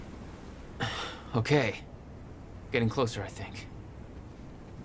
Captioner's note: looks at the horizon and sighs